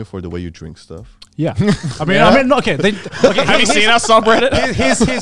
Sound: all laughing

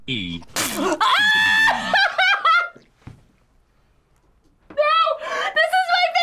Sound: laughs

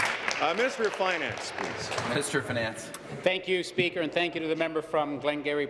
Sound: applause

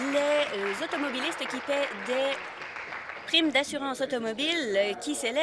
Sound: applause

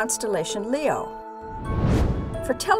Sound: whoosh

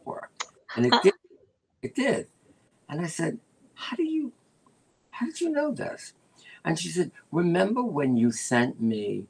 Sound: laughter

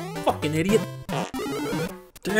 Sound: fart noise

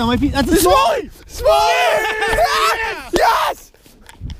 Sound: group cheers

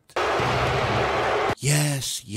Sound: crowd booing

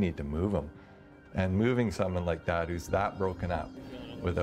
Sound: voiceover

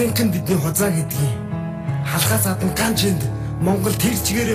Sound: soft music; foreign language

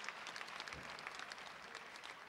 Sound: applause

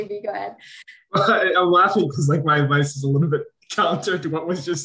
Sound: laugh

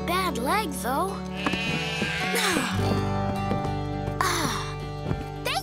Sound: sheep baaing

